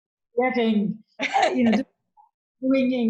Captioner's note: laughing